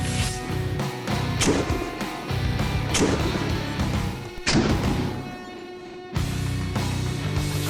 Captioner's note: gun shots; heavy guitar music